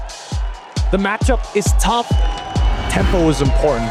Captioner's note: energetic music playing; commentator 1, in English